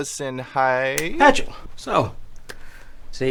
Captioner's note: snaps